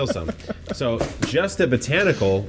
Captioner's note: laughs